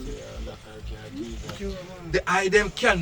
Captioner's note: people murmuring